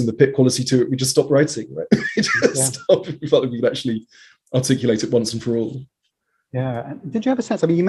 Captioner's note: laughs